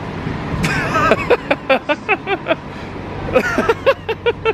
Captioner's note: laughing